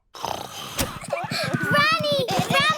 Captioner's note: snoring